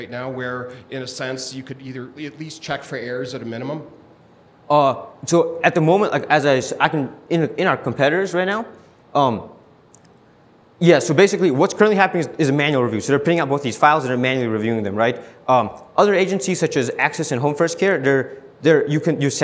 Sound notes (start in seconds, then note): 6.6 stuttering